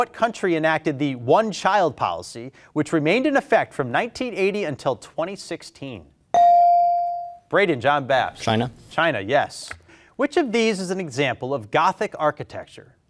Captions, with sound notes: what country enacted the one child policy which remained in effect from 1980 until 2016? (beep) Brayden, John Bapst. - China. - China, yes. Which of these is an example of gothic architecture?